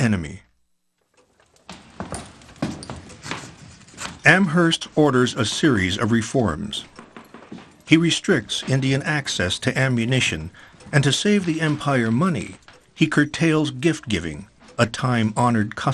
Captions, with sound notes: (fire crackles) (feet shuffle) Amherst orders a series of reforms. He restricts Indian access to ammunition and to save the empire money, he curtails gift-giving, a time honored custom.